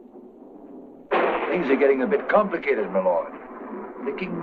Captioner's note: thunder rumbles